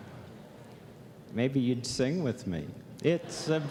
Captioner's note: laugh